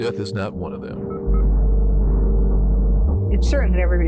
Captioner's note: weighty music; vitals monitor chirps